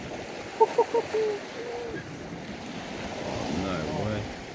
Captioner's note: laughing